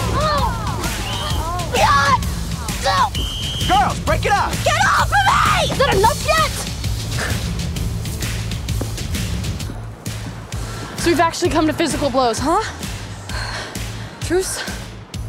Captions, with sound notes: (whistle tweets) (Blair grunts) - Girls, break it up! - Get off of me! - Is that enough yet? So we've actually come to physical blows, huh? Truce?